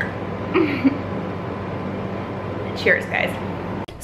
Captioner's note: chuckling